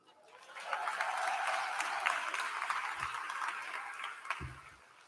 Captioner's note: applause